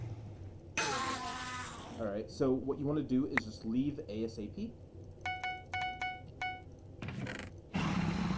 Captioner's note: bed destroyed growl